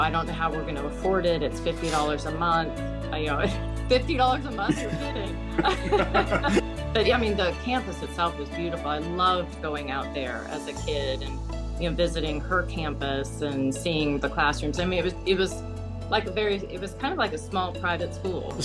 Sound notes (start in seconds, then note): 5.5 laughing